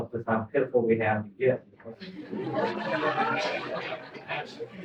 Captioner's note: laughter